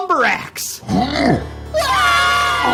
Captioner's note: Lumber Axe groaning; screaming